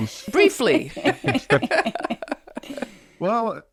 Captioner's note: both laugh